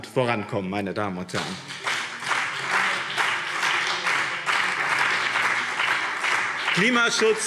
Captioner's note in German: Beifall BÜNDNIS 90/DIE GRÜNEN und CDU